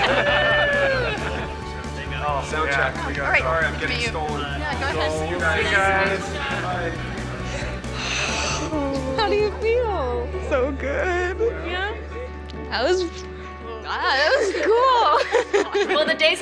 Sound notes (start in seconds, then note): 7.9 gasp